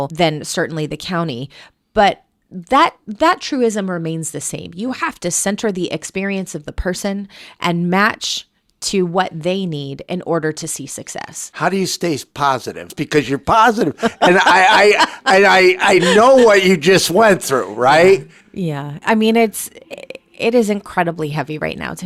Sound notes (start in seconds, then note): 13.7 laughing